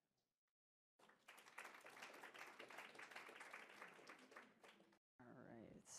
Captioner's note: applause